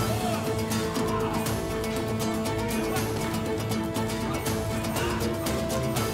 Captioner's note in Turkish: Dövüşme sesleri; Kılıç sesleri